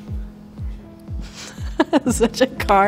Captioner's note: laughing